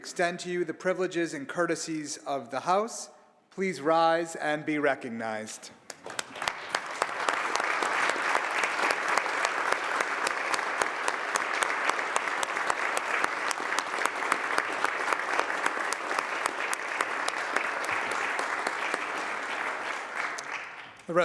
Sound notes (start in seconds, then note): 5.8 applause